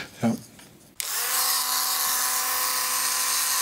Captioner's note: high-pitched drilling noise